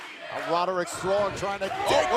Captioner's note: fans chanting